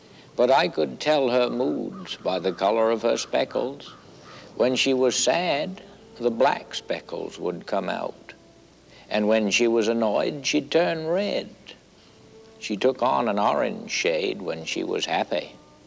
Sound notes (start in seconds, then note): none